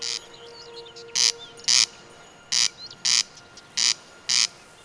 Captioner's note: bird croaks; croaks